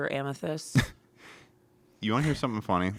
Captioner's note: laughs